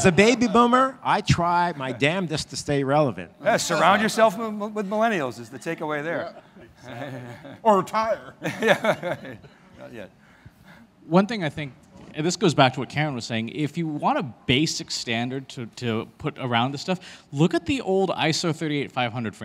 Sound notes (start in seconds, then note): 6.2 laughs